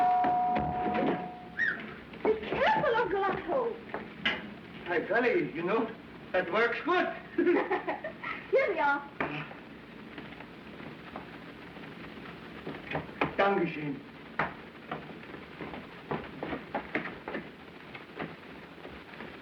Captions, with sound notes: [ Whistles ] BE CAREFUL, UNCLE OTTO. BY GOLLY. YOU KNOW, THAT WORKS GOOD. [ Giggles ] HERE THEY ARE. DANKE SCHOEN.